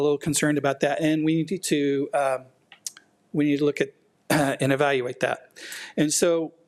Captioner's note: clears throat